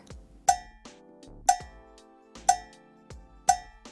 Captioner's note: timer ticking